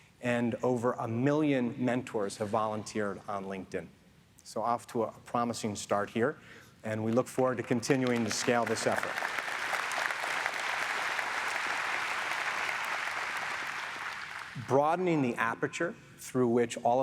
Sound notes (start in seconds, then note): 9.3 audience applauds